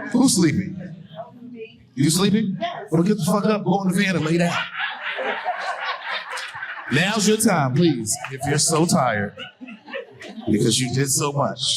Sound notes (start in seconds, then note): 4.0 audience laughing hysterically